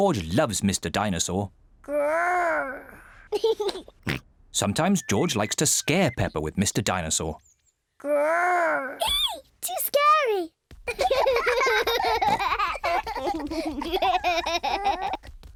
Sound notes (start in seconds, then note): 3.3 giggles and snorts; 10.8 both laugh